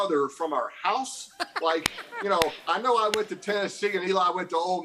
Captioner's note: laughter